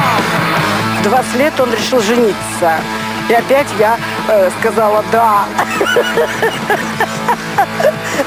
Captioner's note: laughter